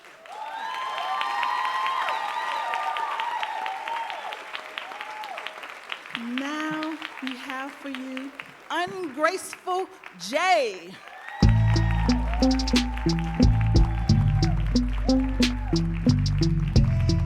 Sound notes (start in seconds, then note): 0.3 audience applauding and cheering; 10.9 audience applauding and cheering; 13.4 mid tempo dramatic music